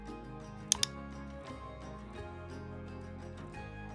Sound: soft music; mouse clicking

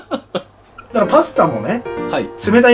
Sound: laughter

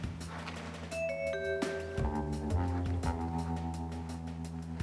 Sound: cat walking

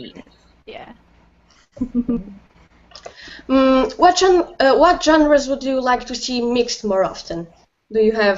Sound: laughter

